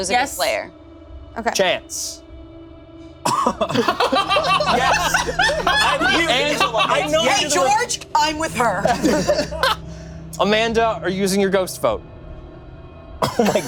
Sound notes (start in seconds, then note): 3.3 laughing